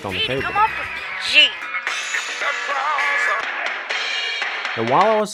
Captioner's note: sounds from the tv